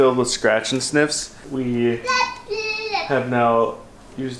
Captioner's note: Babbles